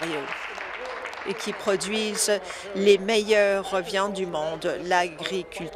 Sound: applause

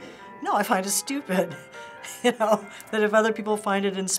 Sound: laughing

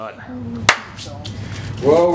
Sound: claps his hand together

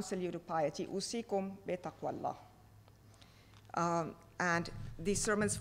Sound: speaking foreign language

